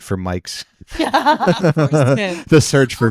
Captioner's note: laughing